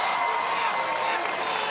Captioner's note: cheers and applause